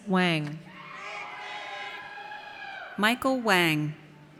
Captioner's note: audience cheers